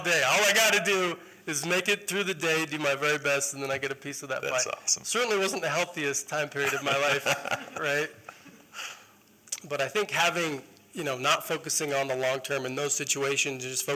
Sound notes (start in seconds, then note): 6.5 laughter